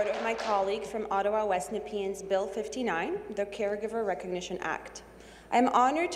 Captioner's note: applause